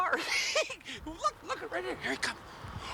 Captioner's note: laughs